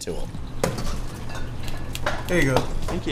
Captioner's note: bottles clanking